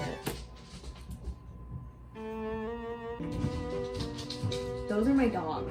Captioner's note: dogs running on wood sounds